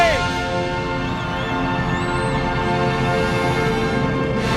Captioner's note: crowd cheering